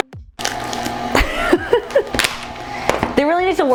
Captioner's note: laughing